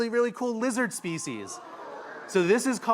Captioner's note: audience oohs and ahhs